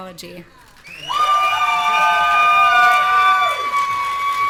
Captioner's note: audience cheering